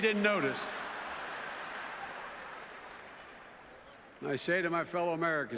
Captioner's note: laughter in audience